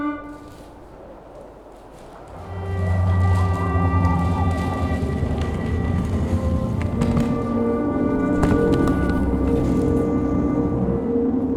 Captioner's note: a wind blows